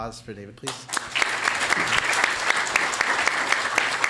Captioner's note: applause